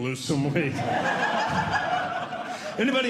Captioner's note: audience Laughing